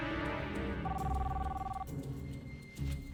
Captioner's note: phone ringing